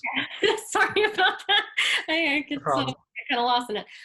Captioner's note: laughs